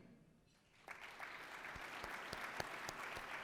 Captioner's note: applause